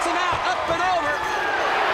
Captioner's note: crowd chatter